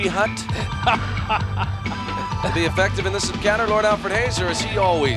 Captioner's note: laugh